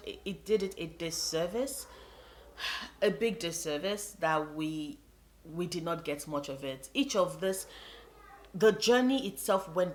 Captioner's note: sigh